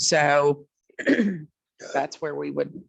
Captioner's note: clears throat